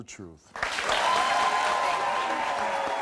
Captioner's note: audience applauds and cheers